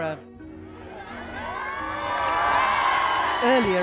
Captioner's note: crowd cheering